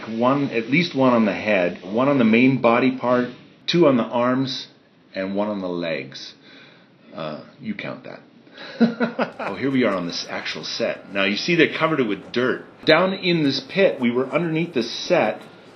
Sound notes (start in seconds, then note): 8.9 laughs